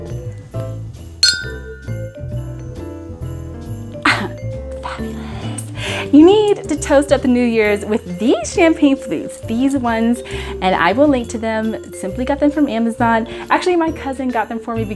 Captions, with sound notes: (clinking glasses) Fabulous. You need to toast up the New Year's with these champagne flutes, these ones. And I will link to them, simply got them from Amazon. Actually, my cousin got them for me